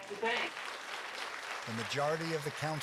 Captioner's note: group applauding